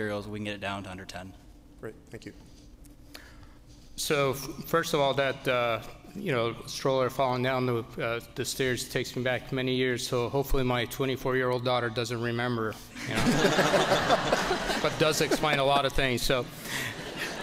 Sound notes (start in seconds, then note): 13.0 laughter